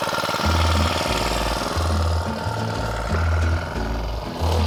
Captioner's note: motor revving